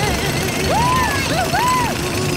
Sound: cheering

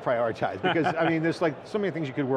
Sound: laughing

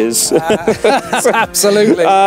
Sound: both chuckling

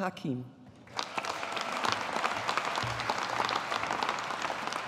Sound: audience applauding

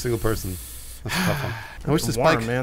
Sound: breath of dissapointment

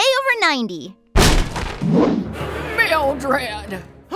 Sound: thump

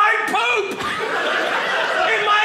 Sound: audience laughing

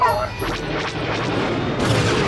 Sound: lasers firing; explosion

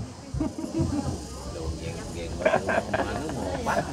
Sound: laughing

